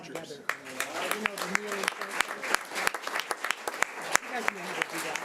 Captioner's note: audience applause